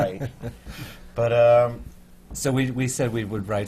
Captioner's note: laughs